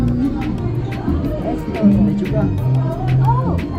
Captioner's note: speaking in foreign language